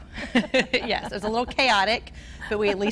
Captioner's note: laughs